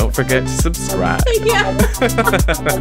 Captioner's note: laughs